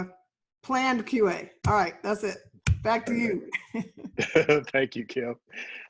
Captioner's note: laughs